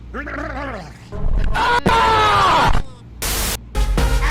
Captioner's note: screaming sounds again